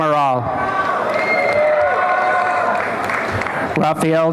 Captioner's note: applause and cheering